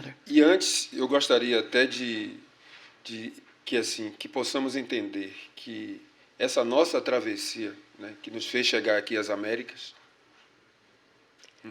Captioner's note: speaking portuguese